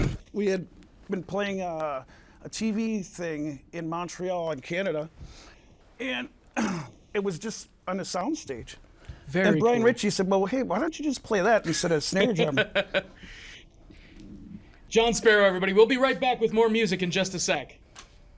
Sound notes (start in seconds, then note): 12.2 laughs